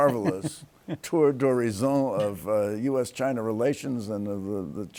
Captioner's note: laughs